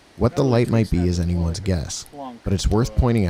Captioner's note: none